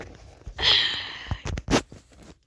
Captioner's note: sighs